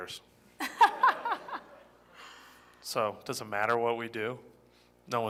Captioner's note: laughter